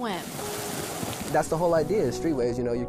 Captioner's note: water splashing